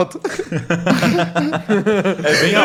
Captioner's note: laughter